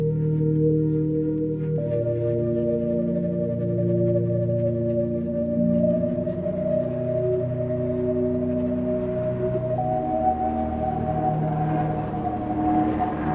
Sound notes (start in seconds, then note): 5.6 distorted music continuing; 6.6 helicopter rumbling